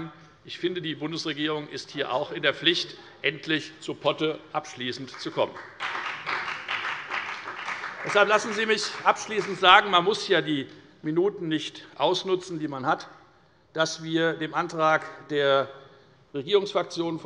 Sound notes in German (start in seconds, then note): 4.9 Beifall bei der FDP